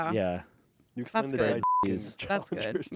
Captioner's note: beep